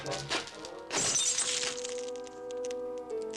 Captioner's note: glass breaking